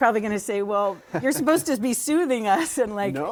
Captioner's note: laughter